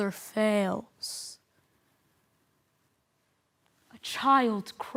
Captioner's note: silent